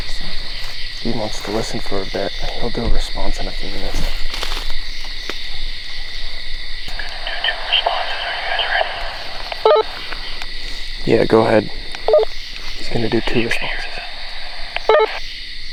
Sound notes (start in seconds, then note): 12.6 walkie beeps